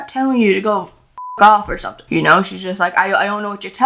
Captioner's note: beep